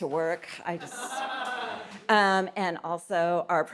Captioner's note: audience laughs